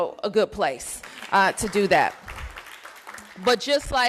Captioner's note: applause